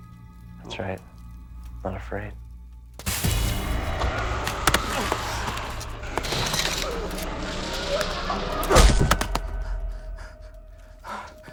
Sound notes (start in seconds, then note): 2.9 Max groans; 3.1 dust slaps